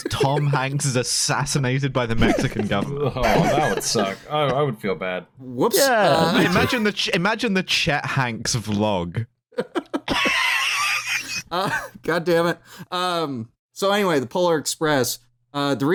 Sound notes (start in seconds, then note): 9.5 laughter